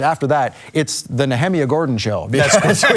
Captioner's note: laughs